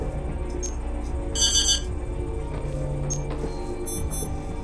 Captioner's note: beeping